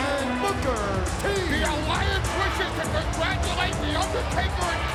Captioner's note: presenter speaking faintly off mic